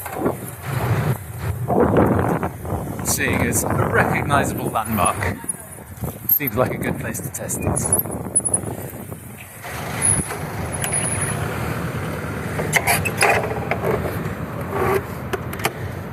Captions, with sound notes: Seeing as it's a recognisable landmark. Seems like a good place to test it. (bicycle brakes squeaking) (bicycle clunking)